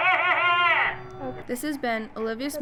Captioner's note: laughing